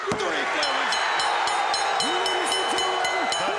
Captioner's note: bell dinging